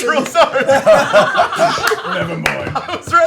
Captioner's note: laughs; laughter